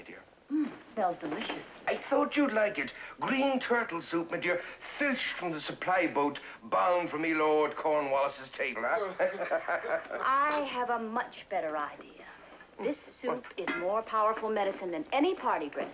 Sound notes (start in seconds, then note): 8.8 chuckling